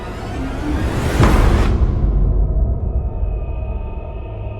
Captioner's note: music swells; book thuds loudly; haunting music